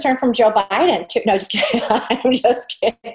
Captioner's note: laughs